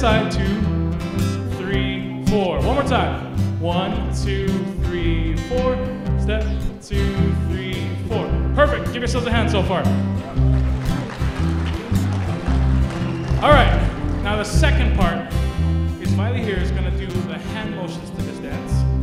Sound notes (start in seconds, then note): 10.2 applause